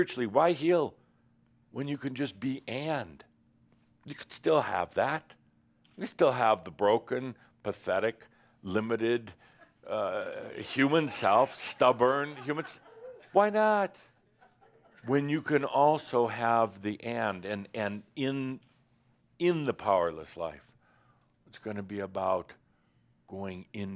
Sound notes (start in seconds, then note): 12.1 some laughter